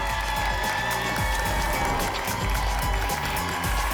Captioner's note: applause and cheering cont